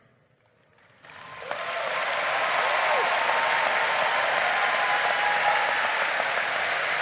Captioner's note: crowd applauding